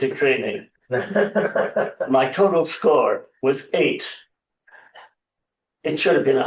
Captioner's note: laughter